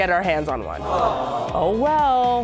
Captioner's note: canned audience ohs